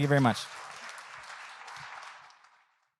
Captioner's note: audience clapping